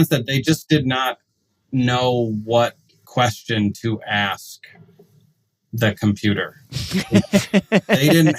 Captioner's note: laughs